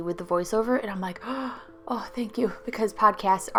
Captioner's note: gasp!